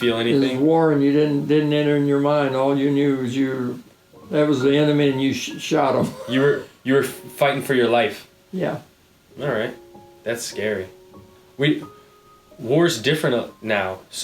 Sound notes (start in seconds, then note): 5.4 chuckling